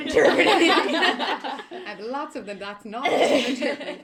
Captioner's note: laughter